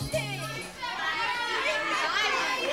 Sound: audience shouting

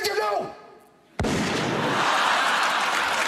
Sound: gun shot; crowd laughing

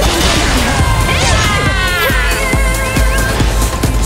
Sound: painful scream

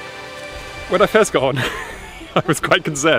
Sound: laughs

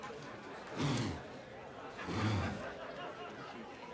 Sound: unknown alien speak

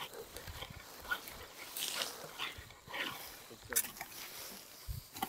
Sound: insects chirping; material rustling; tools scraping

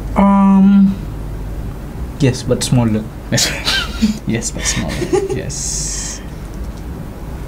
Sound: laughs

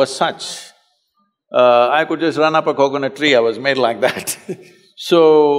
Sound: laughs

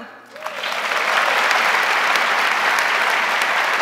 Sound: crowd applauding

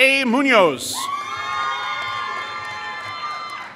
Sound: applause

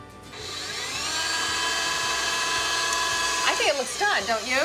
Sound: mixer whirring

